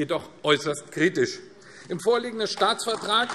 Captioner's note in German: Beifall AfD